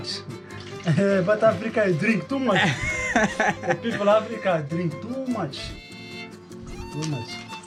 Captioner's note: laughter